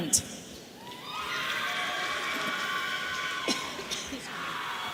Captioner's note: audience cheering